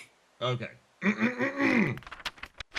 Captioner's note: clears Throat